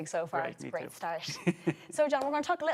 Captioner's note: laughs